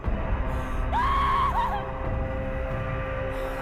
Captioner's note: scream